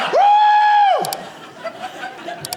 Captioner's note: audience laughing